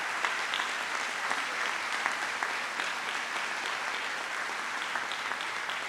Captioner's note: trustees and audience applauding